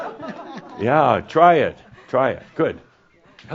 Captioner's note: more chuckles